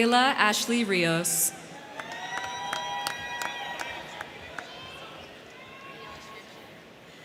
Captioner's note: crowd cheering; crowd clapping